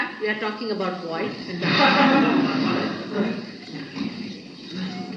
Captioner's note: laughter